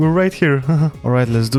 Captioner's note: laugh